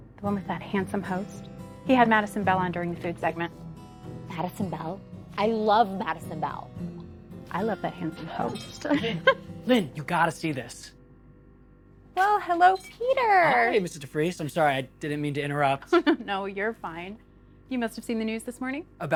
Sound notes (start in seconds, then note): 8.9 laughs; 15.8 chuckles